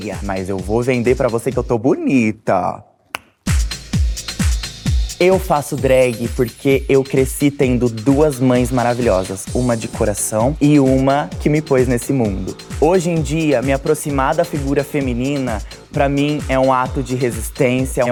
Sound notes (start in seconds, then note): 3.1 tongue pop; 3.2 electronic music